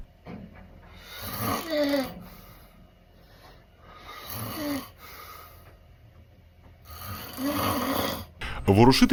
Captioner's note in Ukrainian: звуки хропіння як кряхтіння старого іржавого механізму